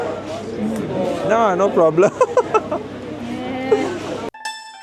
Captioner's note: laugh